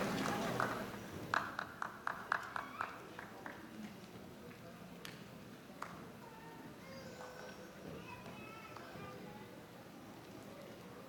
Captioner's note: applause